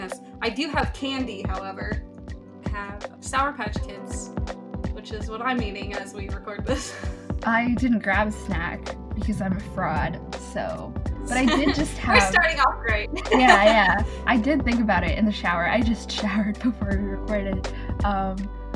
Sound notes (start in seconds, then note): 13.1 laughs